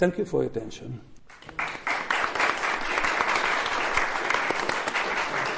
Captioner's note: applause